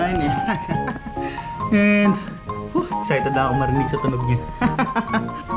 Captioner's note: excited laugh